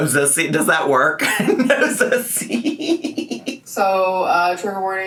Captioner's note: laughing